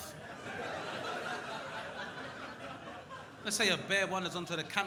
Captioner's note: crowd laughing